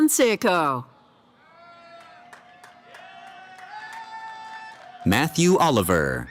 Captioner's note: cheering